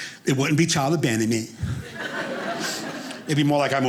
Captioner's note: audience laughing